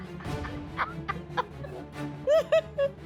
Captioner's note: laughing